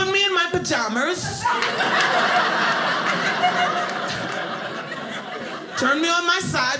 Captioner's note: audience laughing